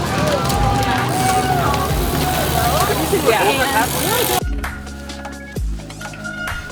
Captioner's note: spectators cheering; spectators chatting